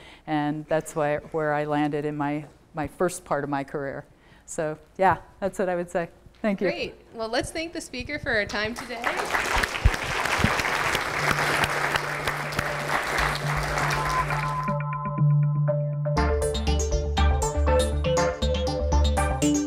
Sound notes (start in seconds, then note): 8.7 audience clapping; 16.2 bright music